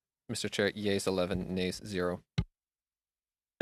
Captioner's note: speaking French